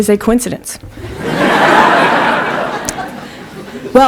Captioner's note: laughter